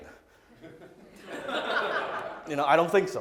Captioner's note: audience laughs